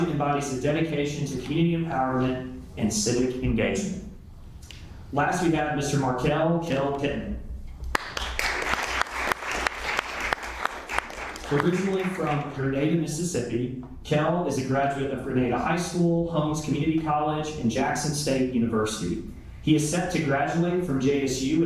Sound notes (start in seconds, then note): 7.8 applause